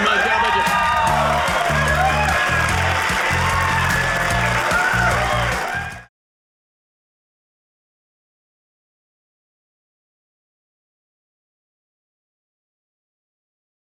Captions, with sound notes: God bless you. (audience cheering)